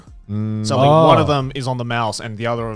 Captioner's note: affirmative murmuring